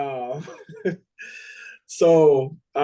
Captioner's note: chuckles